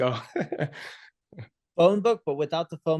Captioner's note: laughs